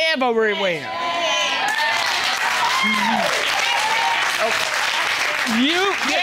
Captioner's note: cheers, applause